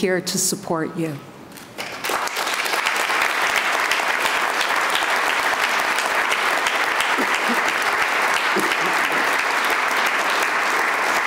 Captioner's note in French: Applaudissements